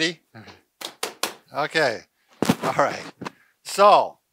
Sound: slaps table

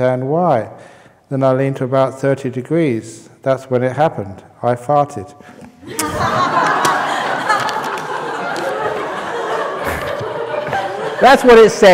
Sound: laughter; holds up paper, laughter

